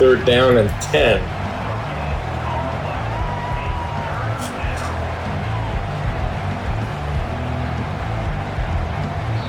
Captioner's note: crowd Noises